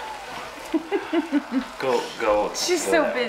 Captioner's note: laughs